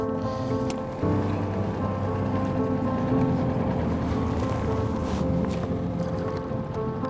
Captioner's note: equipment rattling; grass rustling; motor droning; gentle music continues